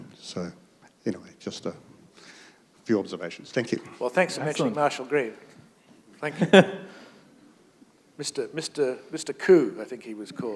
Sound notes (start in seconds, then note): 6.4 chuckle